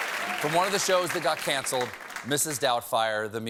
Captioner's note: cheers and applause